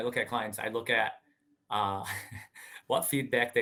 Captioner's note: laughing